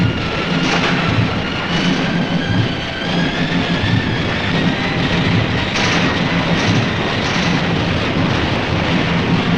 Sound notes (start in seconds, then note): 0.0 dramatic music; 0.9 guns firing